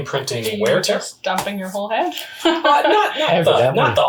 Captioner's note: laughs